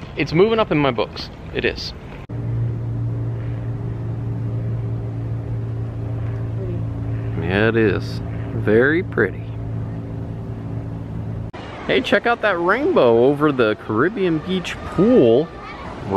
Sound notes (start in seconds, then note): 2.6 helicopter roaring